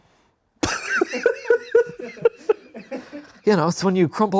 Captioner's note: laughs